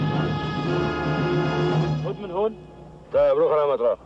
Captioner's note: speaking in Arabic